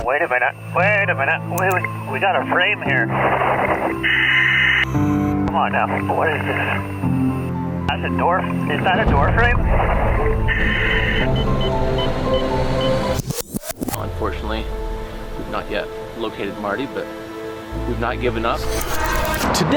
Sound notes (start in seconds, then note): 3.3 radio screeching; 10.2 scenes whooshing; 10.2 equipment beeping; 18.6 scenes whooshing